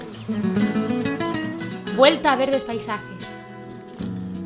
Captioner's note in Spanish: Voz en off